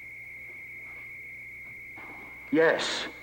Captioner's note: machine buzzing